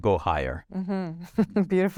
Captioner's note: laughs